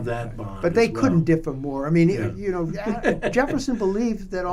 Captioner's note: laughter